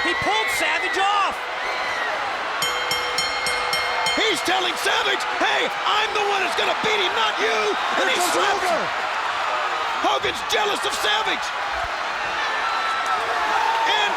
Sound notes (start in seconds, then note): 1.2 bell rings; 9.1 audience cheers